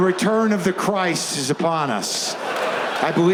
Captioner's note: audience laughs